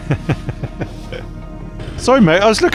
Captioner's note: laughs